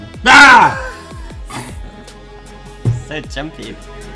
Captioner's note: laughs